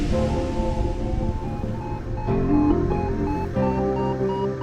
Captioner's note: uplifting music; beeping noise